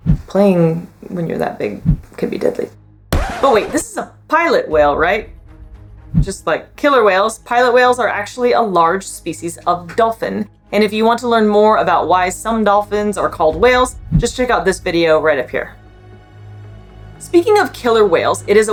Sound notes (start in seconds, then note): 3.1 record scratch sound effect; 5.5 background music; 15.9 background music